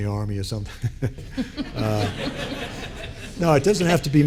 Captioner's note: group laughing